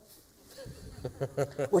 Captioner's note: laughter